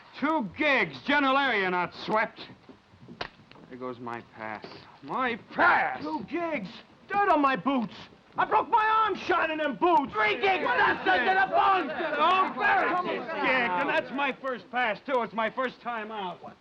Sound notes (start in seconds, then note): none